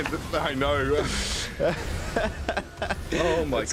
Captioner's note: laughs